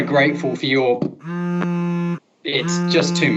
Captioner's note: phone vibrating